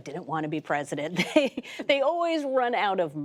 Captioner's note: laughter